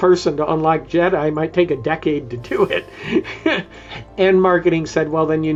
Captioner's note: chuckles